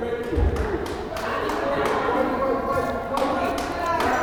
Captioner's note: crowd chattering